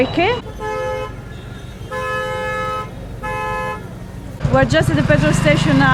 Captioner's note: traffic noise